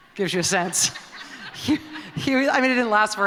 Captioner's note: laughter